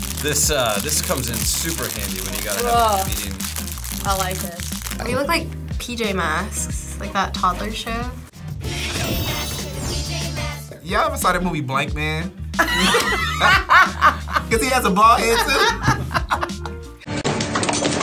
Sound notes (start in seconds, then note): 12.5 both laugh; 15.2 laughs